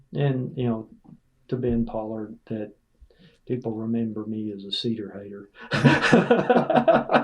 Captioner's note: laughter